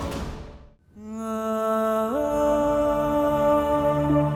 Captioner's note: emotional vocalising